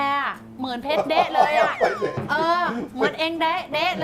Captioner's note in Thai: หัวเราะ